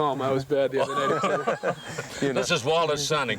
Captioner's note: all laughing